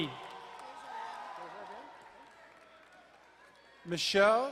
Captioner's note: distant cheering